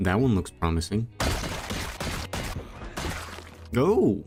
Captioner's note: zombies skulls getting bashed in